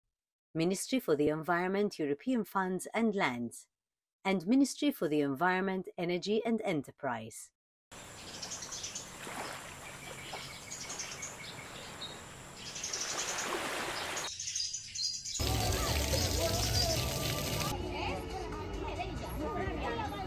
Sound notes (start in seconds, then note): 9.1 crashing waves; 10.2 birds tweeting; 18.4 indistinct chattering